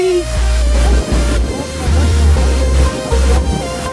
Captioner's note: wind blowing